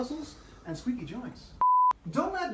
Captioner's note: beep plays